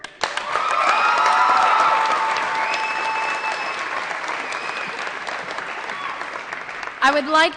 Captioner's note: applause & Cheering